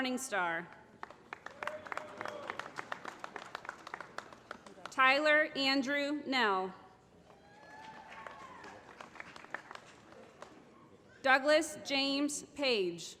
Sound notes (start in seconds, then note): 0.9 applause; 7.6 applause